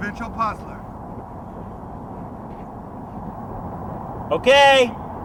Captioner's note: air whooshing